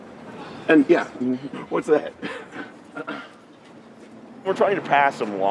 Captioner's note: laughing